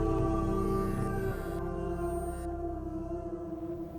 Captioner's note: static buzzing